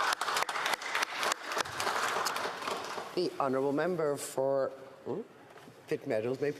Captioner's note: applause